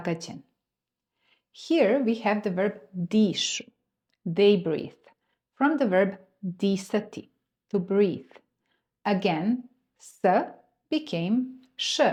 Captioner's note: they breathe